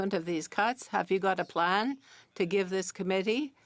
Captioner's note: speaking French